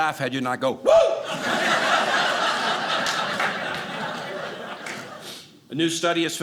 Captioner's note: audience laughing